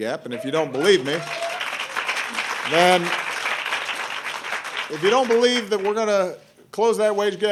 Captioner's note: applause